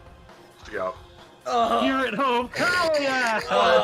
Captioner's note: pained sounds